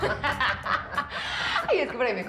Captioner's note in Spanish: risas